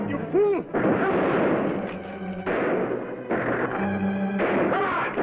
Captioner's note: gunshots bang